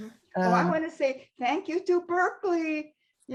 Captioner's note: laughs